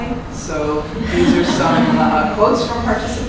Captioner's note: laughing